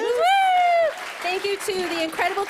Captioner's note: applause